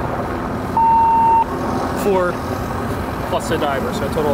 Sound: radio beeps

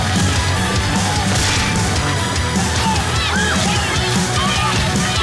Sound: rock music; contestants yelling

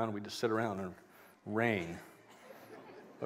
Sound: laughter

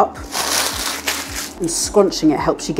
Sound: scrunchy crackle

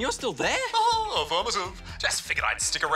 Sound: chuckles

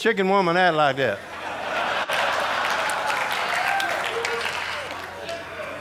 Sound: audience laughing

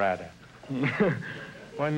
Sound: laughs

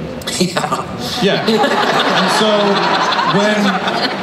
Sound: laughs; everyone laughs

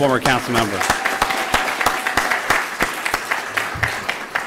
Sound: applause

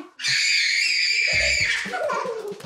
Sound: screaming

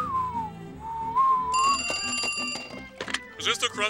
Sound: whistling; phone ringing

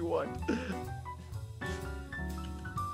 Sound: laugh

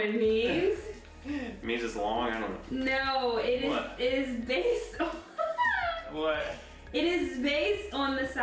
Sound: laugh

